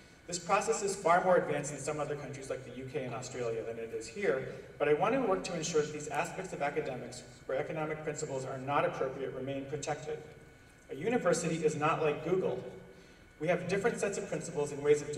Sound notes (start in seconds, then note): none